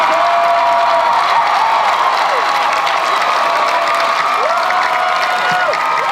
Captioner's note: audience and panelists cheer